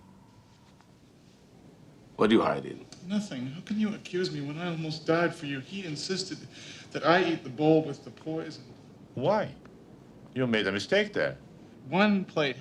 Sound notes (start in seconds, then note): none